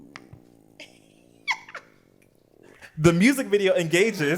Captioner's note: laughs